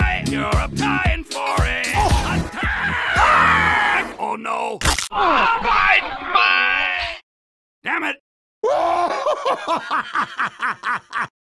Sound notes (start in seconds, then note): 2.5 alcohol-scented scream; 4.8 sound of a broken spine; 8.7 Drunk Scottish laughing at an American with mental issues